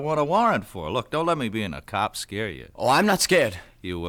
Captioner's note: chuckles